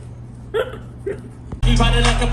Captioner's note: laughs